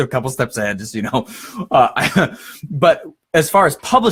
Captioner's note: laughs